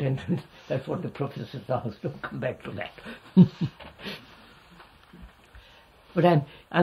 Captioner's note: laughs